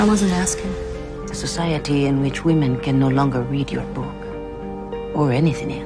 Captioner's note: voiceover